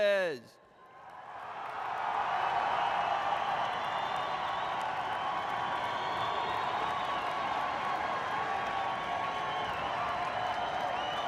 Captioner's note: cheers and applause